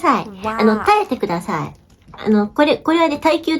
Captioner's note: laughing